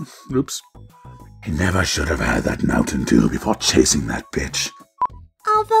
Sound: demonic voice

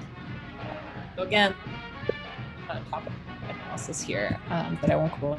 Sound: audio distortion

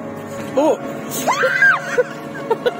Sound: now SHE screams in fear

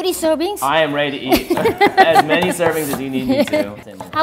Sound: laughs

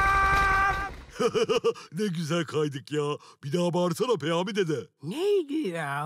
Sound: joyful noises

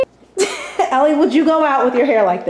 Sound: laughter

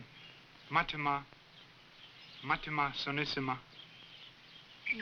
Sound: speaking african language

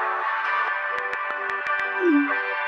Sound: typing

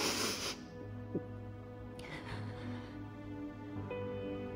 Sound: Diane crying; dramatic piano music

